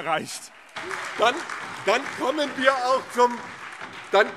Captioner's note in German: Heiterkeit und Beifall